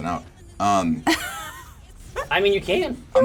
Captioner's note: laughs